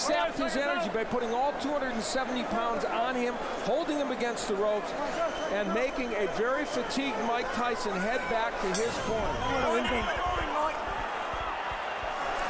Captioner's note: applause